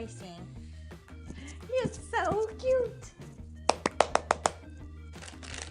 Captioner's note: clap, clap, clap, clap